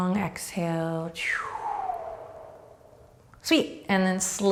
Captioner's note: breathing deeply